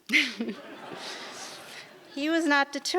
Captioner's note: audience laughs